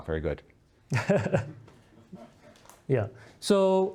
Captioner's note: laughing